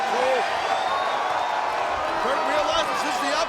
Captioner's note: audience cheering and clapping